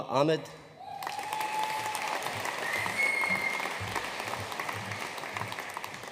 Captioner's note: audience cheering and applauding